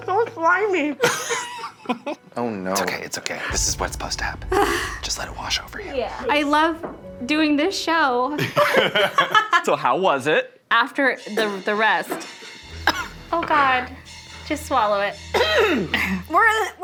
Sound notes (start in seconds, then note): 1.7 Zach laughing; 8.3 all laughing; 12.8 coughs; 15.3 clears throat